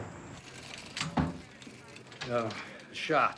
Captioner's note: police radio chatter